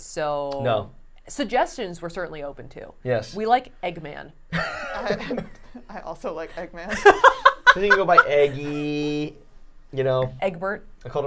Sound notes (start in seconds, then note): 4.5 laughing